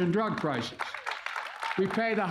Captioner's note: applause